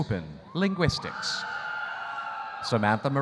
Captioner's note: audience cheering